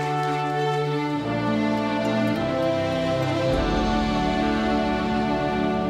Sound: applause

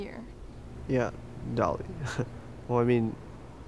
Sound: laughs

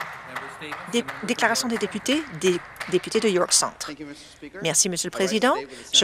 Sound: some Applause

